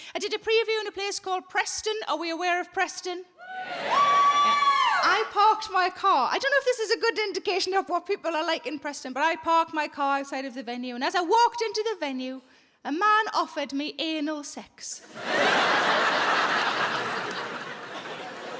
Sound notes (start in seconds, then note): 3.4 audience cheering; 15.0 audience laughing